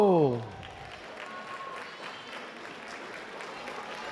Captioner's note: applause